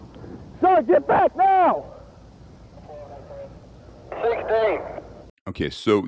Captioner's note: police Radio: Sixteen